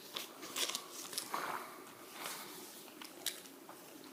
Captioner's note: rustling pages